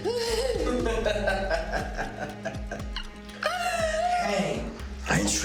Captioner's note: Ben laughing